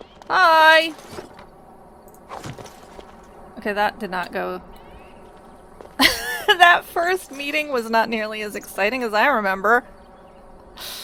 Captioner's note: laughs